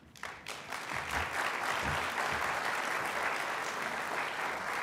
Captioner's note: applause